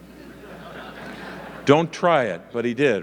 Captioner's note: audience laughing